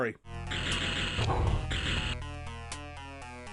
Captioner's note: pew pew